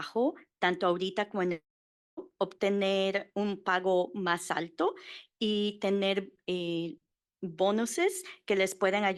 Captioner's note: Spanish